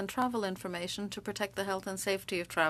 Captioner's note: speaking French